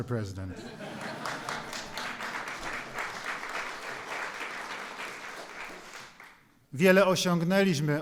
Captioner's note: applause